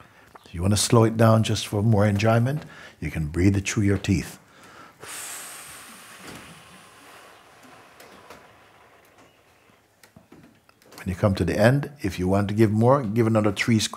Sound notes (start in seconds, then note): 0.0 long exhale; 8.5 long, slow exhale